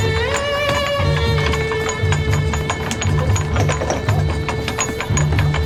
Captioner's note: chain clattering